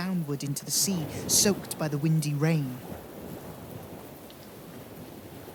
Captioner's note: wind howls and fades